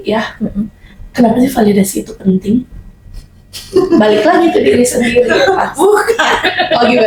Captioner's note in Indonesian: tertawa